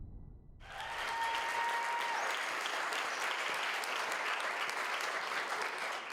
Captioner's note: audience cheering and applauding